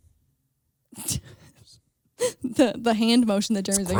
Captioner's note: laughs